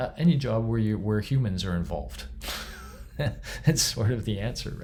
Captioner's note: chuckles